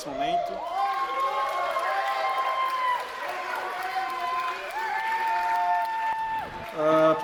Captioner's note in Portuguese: aplausos